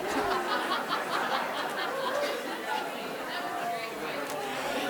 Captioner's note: audience laughing